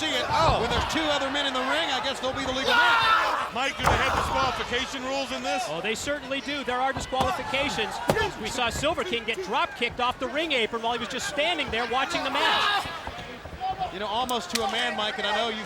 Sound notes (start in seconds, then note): 0.0 wrestlers grunting; 0.1 blows thudding; 7.0 hands thudding